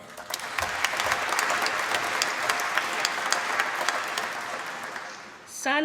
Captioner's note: applause